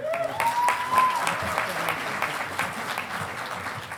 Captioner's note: audience applauding